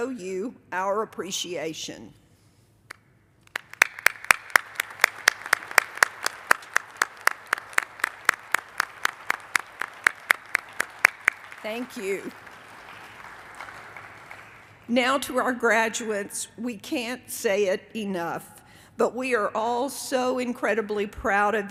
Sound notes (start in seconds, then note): 6.7 applause